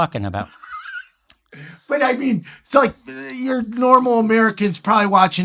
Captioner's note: laughs